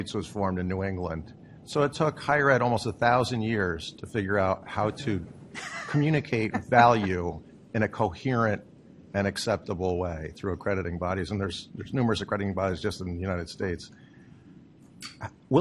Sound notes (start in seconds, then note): 5.6 laughter